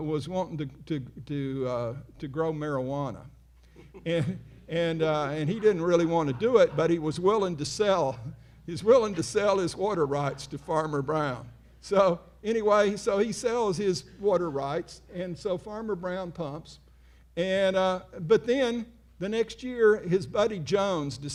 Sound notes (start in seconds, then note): 2.6 audience laughing